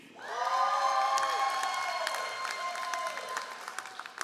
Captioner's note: all applauding